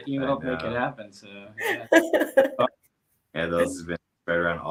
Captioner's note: laughing